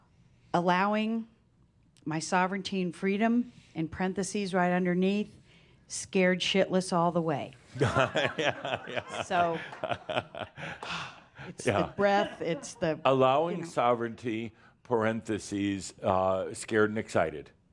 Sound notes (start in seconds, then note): 7.8 laughs; 10.6 she sighs